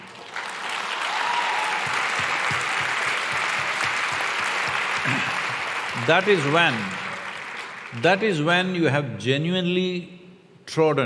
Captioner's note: applause